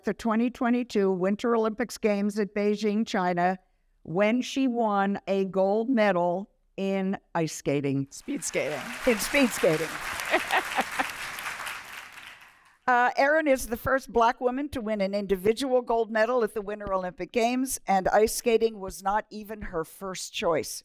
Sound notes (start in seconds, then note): 8.2 applause